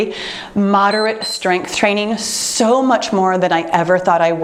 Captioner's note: timer beeps